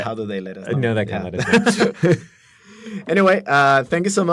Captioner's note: laughter